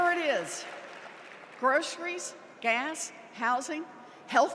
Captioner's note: applause